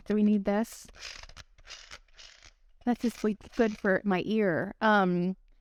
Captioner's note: drilling noise